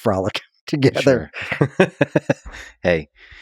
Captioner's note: both laughing